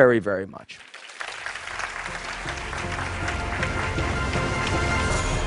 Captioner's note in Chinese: 掌聲